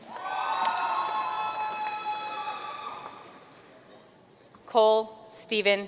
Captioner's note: audience cheering and applauding